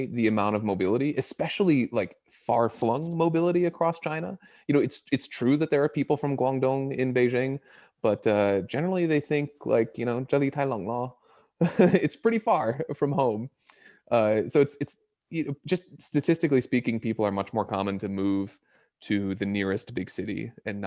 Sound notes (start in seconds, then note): 9.9 speaks in Mandarin; 11.6 chuckles